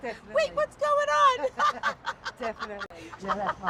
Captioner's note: Theresa laughs